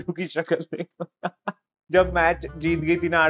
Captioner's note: laughing